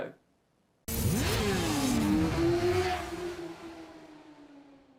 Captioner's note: motorbike engine roaring